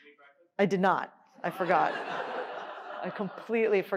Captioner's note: laughter